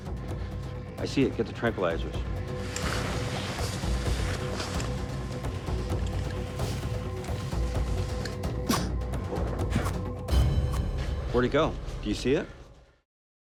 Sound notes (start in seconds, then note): 6.0 leaves rustling; 8.6 blowguns firing